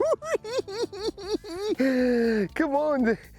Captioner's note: cackling